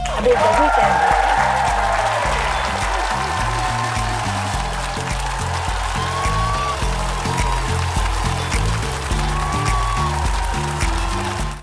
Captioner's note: applause